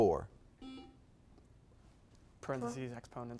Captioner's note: buzzer beeps